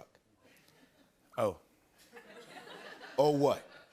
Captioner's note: light laughter